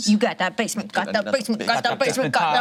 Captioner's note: speaking gibberish